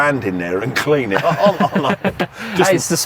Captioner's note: both laughing